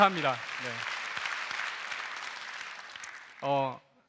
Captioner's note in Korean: 박수와 환호